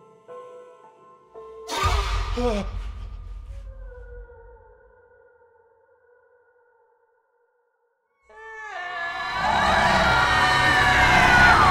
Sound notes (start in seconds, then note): 1.6 dramatic music; 1.9 banshee screams; 2.3 husband gasps; 9.2 banshee screaming